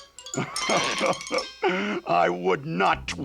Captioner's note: chuckles